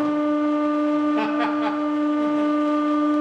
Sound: laughter

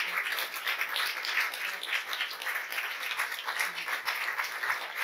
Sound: applause

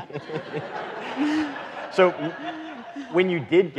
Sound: audience laughing

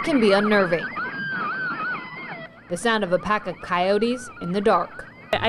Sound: coyotes howling

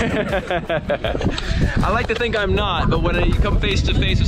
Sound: laughing

